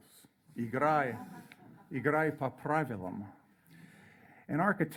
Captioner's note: speaks in foreign language